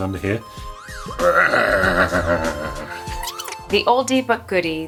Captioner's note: growling